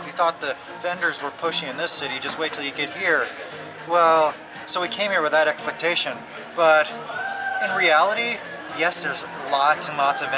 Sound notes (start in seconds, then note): none